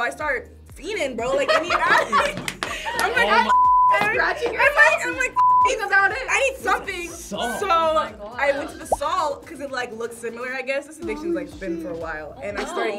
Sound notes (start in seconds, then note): 1.3 group laughs; 3.5 beep